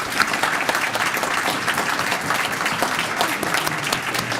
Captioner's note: applause